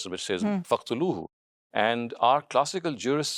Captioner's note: speaking in foreign language